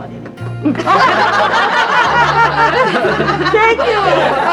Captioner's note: all laughing